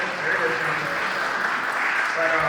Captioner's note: applause